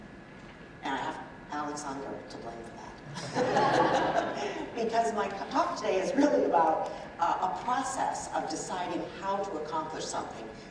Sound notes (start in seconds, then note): 3.1 audience laughs